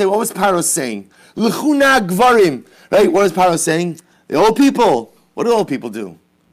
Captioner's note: Hebrew